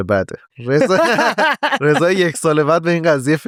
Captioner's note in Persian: خنده